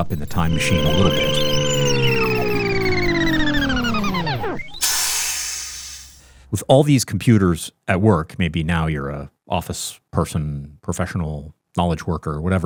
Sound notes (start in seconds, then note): 0.0 time machine whirring; 5.0 time machine hissing